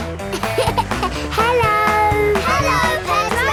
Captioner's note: laughing